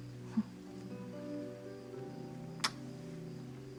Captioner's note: chuckles